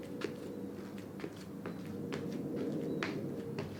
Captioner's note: feet clopping